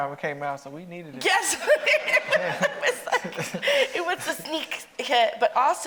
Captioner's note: laughs